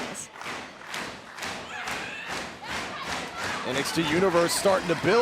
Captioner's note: crowd cheering